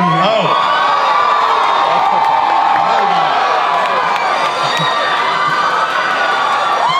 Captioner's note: audience cheers and applauds